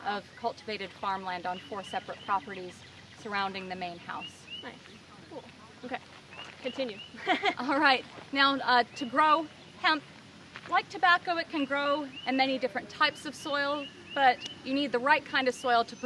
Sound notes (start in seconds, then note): 7.1 laughs